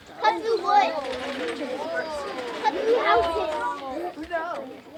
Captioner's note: children chattering